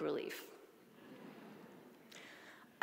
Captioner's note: audience laughing